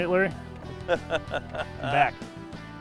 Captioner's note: laughs